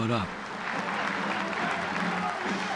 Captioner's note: audience applauding, band playing